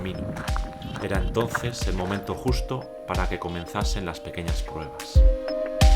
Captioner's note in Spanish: Voz en off